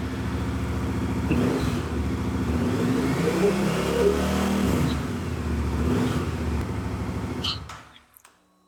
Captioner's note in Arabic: محرك دراجة نارية